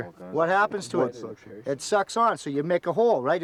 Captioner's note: voiceover